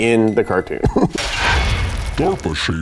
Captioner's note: chuckles